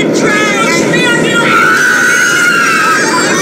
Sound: screaming and panic

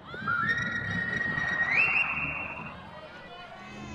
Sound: person whistling; people chattering

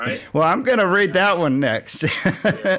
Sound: laughs

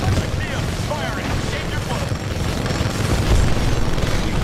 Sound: radio

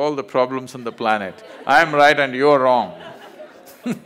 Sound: laughter

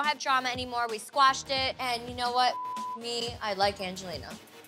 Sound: beep

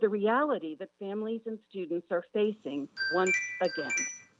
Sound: chime

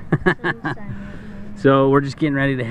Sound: laughs

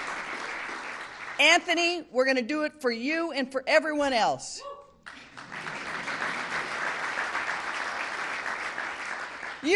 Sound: applause

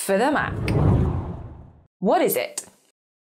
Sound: screen whooshes

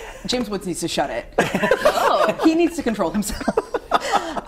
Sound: laughter

